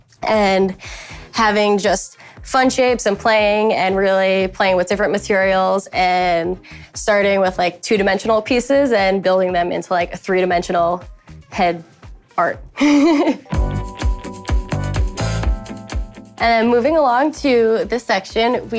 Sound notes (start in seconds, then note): 12.7 chuckles; 13.6 upbeat music